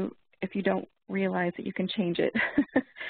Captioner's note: laughs